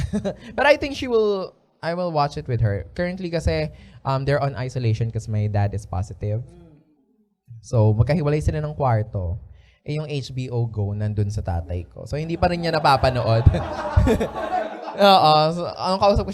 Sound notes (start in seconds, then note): 12.3 laughter